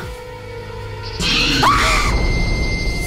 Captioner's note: screams